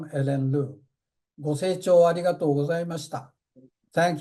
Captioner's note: speaking japanese